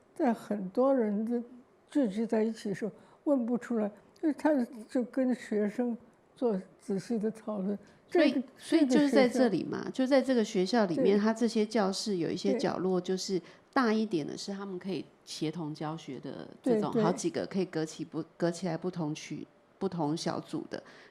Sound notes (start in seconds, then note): 8.7 Mandarin; 16.3 Mandarin